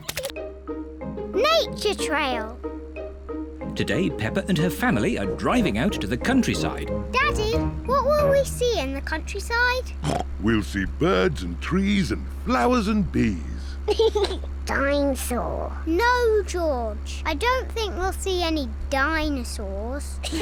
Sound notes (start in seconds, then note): 10.0 snorts; 13.8 laughs; 20.2 all giggle